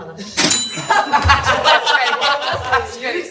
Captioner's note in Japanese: 笑い声